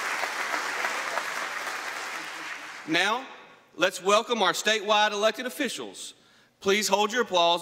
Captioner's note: applause